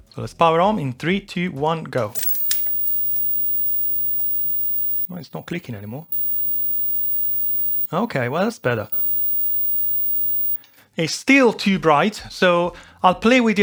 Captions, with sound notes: So let's power on in three, two, one, go. (clicking) Well, it's not clicking anymore. Okay, well, it's better. It's still too bright, so I'll play with